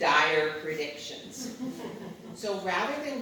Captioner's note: audience chuckles